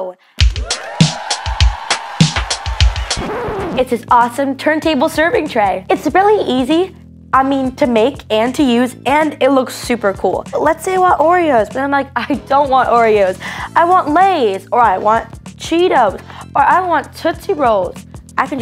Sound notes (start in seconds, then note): 0.4 upbeat music; 0.6 cheering; 2.2 record scratch